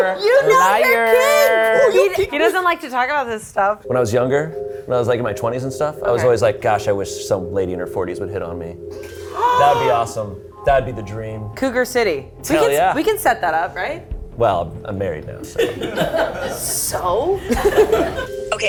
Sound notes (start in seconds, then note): 9.1 gasps; 17.5 laughs